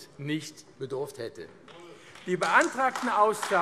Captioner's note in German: Beifall AfD